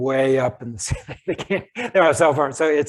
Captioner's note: laughs